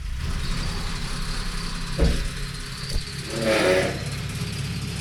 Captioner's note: motor running